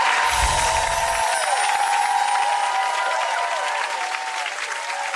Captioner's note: audience cheering